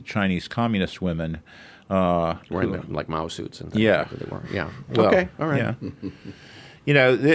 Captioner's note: laughs